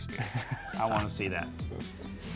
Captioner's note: laughing